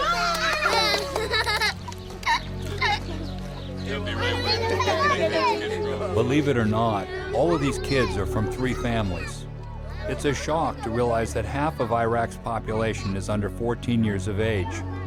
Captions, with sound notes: [clapping and kids laughing] - [Voiceover] Believe it or not, all of these kids are from three families. It's a shock to realize that half of Iraq's population is under 14 years of age